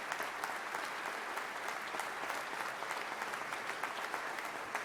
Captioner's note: audience applause